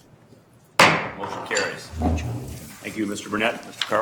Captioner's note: gavel bangs